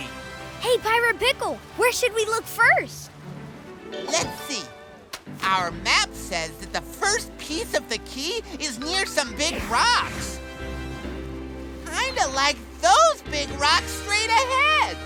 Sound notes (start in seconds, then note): none